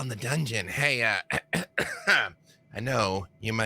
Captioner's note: clears throat